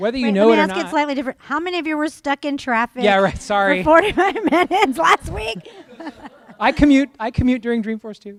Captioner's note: laughter